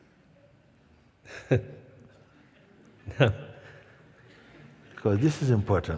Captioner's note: questioner laughs